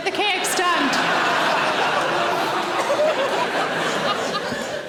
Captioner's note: audience laughing